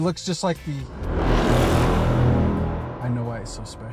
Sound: intense horn blows

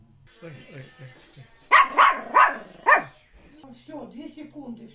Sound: a dog barks

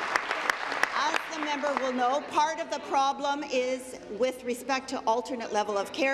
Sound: applause

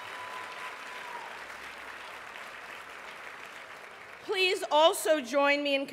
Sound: applause

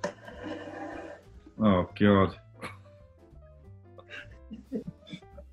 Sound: giggling

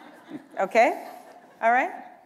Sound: laughter

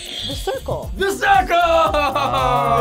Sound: buzzer rings; bell rings

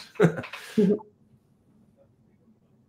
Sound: laughs

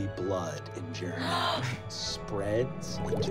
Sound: gasps; bubbling

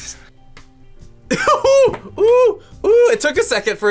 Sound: laughing

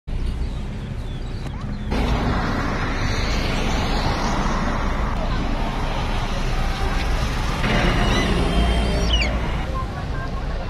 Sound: city chatter and noises

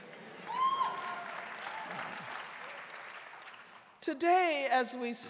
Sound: audience cheering

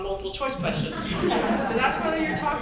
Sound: audience chuckles

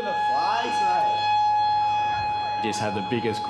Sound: siren

